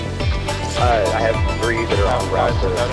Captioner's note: voiceover